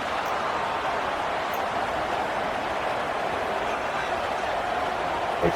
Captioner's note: crowd Noises